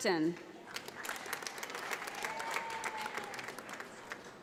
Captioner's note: audience applauds